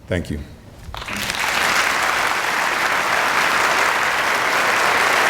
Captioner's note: audience applauding